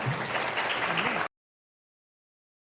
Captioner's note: audience applauds